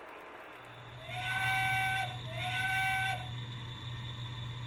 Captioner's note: train whistles